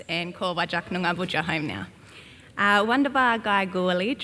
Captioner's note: speaks Gamilaroi